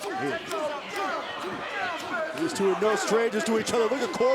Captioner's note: crowd chatter